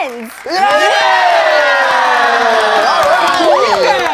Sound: group cheers

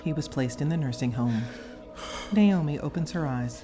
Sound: breathes hard

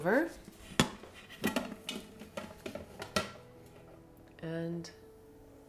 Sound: pot clanking

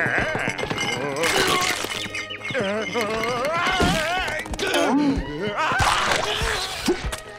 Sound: groaning

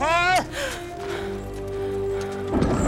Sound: gasps

